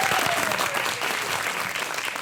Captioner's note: audience applauds